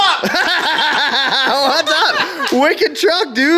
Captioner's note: laughter